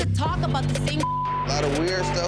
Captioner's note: beep